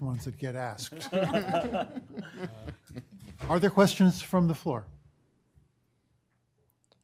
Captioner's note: laughter